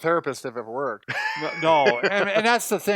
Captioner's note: laughs